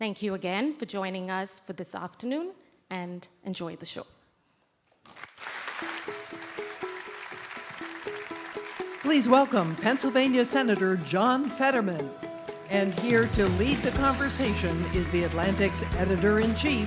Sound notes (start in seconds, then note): 14.0 applause